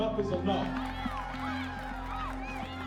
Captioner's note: crowd cheering